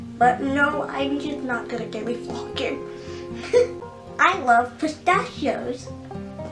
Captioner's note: giggles